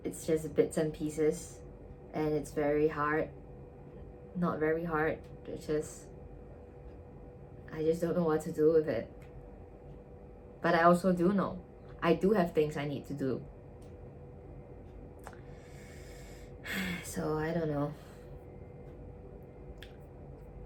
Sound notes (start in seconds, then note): 16.6 sigh count: 10